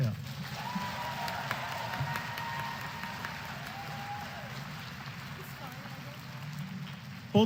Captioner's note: applause